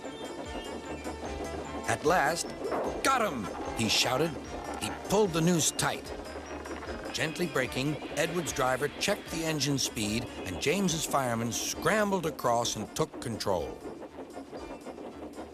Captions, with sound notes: - AT LAST, "GOT HIM!" HE SHOUTED. - ( creaking ) HE PULLED THE NOOSE TIGHT. GENTLY BRAKING, EDWARD'S DRIVER CHECKED THE ENGINE'S SPEED, AND JAMES'S FIREMAN SCRAMBLED ACROSS AND TOOK CONTROL.